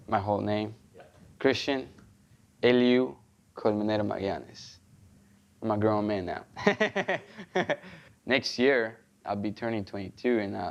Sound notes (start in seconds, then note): 6.6 laughs